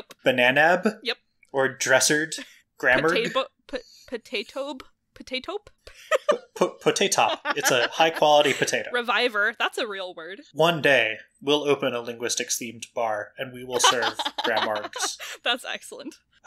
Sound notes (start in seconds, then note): 3.3 stumbling; 6.0 laugh